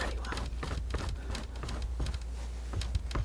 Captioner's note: scratching